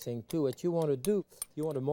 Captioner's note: spoon clinking